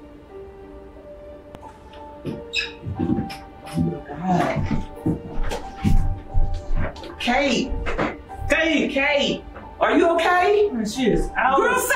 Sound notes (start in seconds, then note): 2.2 door creaking